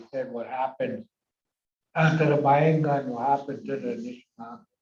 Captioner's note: foreign language